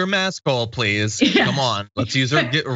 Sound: laugh

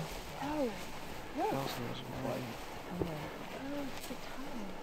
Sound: chattering

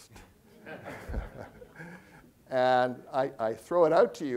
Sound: all chuckling

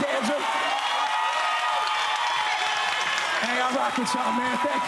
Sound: cheering, applause

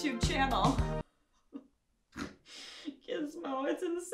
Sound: painful snort-laugh

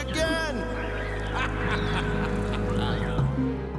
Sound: laughing

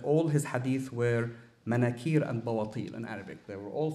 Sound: speaking arabic

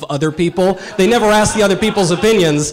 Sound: audience laughter

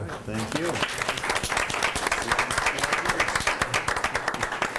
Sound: group applauds

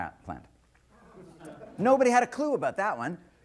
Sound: scattered laughter

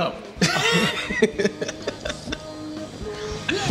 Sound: laughs

